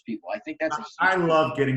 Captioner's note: murmurs